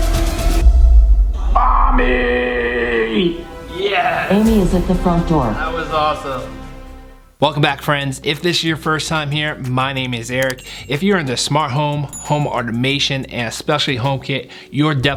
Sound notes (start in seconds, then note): 1.5 Siri Homepod Talking